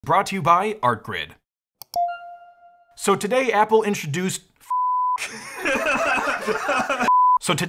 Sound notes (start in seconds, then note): 1.9 beeps; 1.9 logo dings; 5.2 all laughing